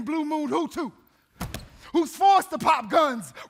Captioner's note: feet stomping